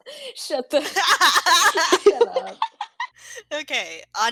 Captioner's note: laughter